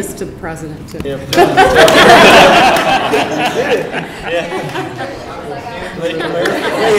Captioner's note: laughter